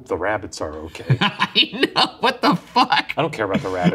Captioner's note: laughing